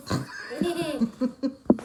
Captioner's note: laughing